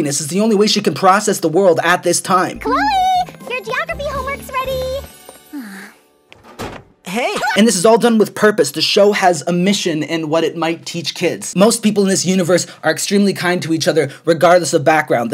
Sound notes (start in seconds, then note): 5.5 sighs; 7.3 screaming